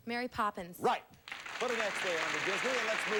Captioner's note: audience applauding